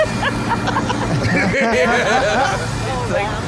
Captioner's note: all laughing